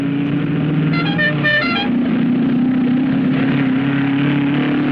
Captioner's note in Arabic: صوت المحرك